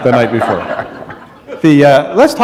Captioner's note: laughter